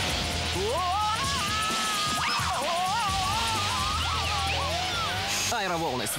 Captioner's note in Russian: кричит